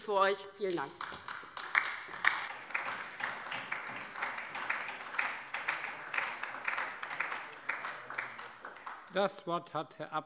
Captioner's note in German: Beifall bei der LINKEN und der SPD